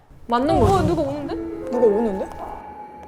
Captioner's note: footsteps heard outside